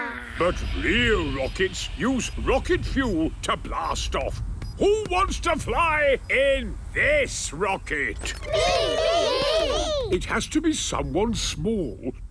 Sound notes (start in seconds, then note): 8.3 calling out in turn